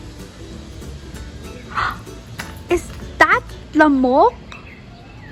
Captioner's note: gasps again